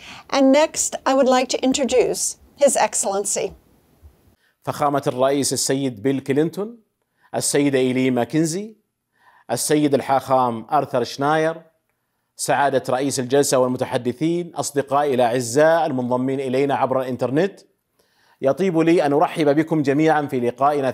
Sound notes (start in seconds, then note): 11.3 speaking arabic